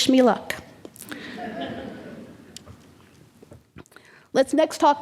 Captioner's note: audience laughing